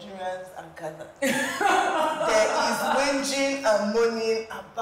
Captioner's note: laughs